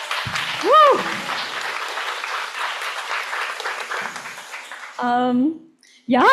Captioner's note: applause and cheering